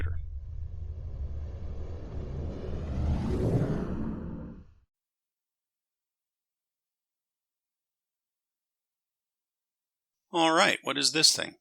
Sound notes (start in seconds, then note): 0.0 SFX: rumble/woosh